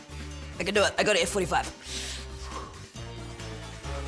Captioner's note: exhales